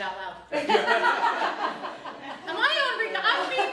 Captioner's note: both laugh